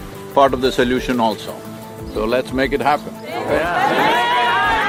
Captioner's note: few laugh